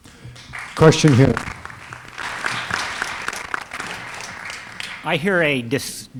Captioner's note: applause